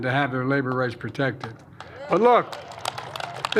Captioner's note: applause